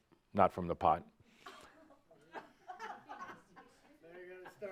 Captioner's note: a few giggles